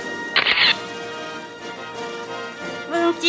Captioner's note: camera shatters